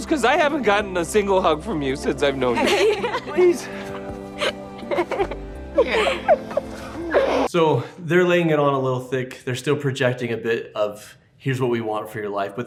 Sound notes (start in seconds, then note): 2.4 laughs